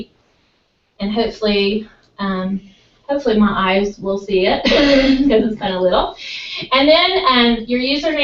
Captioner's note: laugh